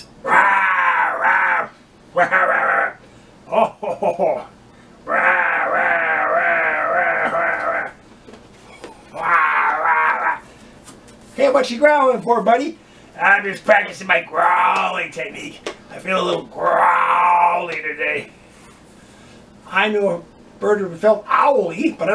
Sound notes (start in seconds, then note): 2.1 PARROT laughs; 2.2 voice offstage growls; 5.1 voice offstage growls; 9.0 TOUCAN growls